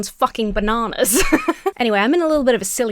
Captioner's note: laughs